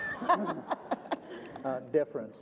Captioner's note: group laughter